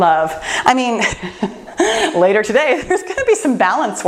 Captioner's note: laughs